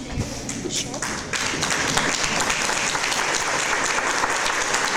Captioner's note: audience applause